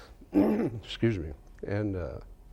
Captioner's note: clears throat